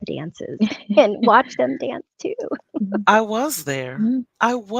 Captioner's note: laughs